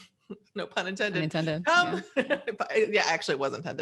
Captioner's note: laughs